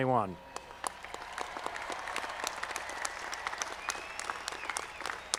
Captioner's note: audience applauding